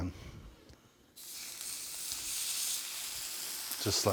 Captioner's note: fish sizzling